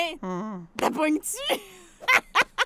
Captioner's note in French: rires